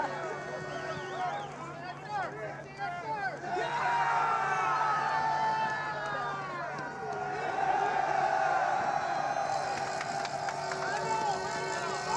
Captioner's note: cheers and Applause